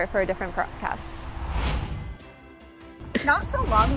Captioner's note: upbeat music; logo whooshing